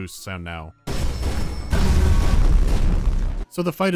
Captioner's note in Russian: взрыв усилен фоновой бас-вибрацией